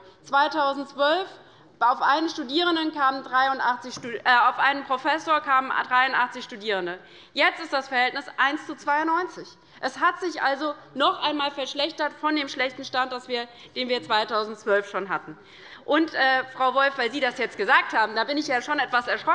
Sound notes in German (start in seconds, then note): none